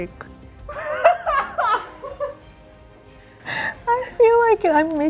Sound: laughing

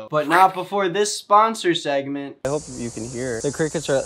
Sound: none

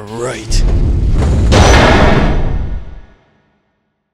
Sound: door slams shut and echoes

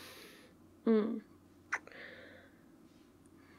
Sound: kiss

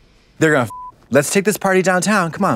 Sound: beep

